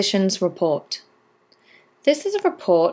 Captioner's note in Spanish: Voz en off